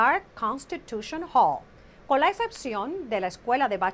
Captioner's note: Hablando en ingl\s